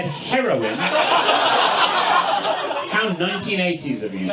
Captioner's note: audience laughs